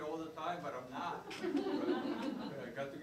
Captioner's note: laughing